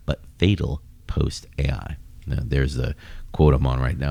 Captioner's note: uh